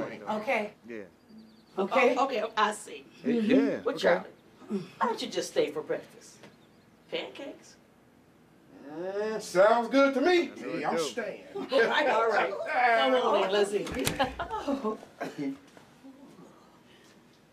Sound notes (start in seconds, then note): 11.8 laughter at once